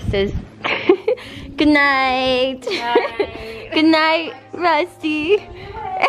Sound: laughs

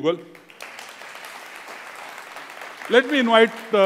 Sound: applause

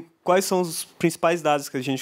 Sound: non-english speech

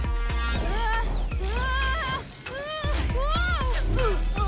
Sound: anxious cries

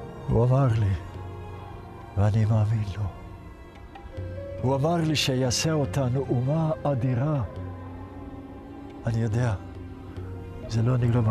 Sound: speaking in Hebrew; speaking in Hebrew

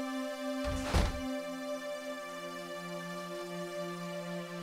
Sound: door closing

